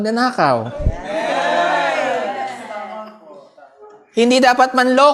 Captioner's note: audience cheers